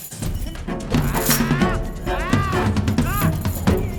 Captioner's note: growling